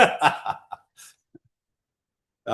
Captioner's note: laughter